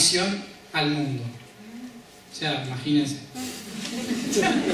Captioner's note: laughs